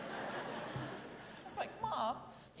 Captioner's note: audience laughing